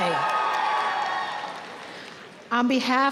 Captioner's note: audience cheering